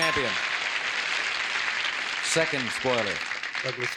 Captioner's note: applause